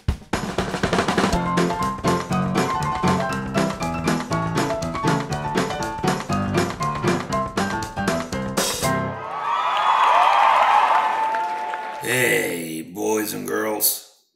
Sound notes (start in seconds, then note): 9.2 applause